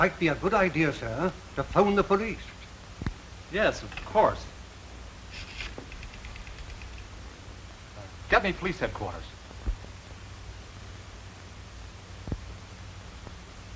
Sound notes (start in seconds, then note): 6.5 dialing